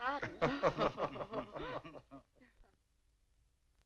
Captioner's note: laughing